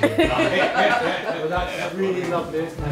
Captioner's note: laughter